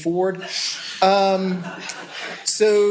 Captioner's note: laughter